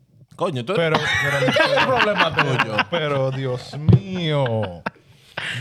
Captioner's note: speaking Spanish; laughing; speaking Spanish